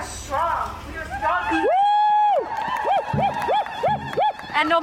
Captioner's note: crowd screaming